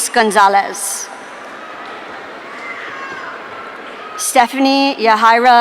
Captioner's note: audience cheering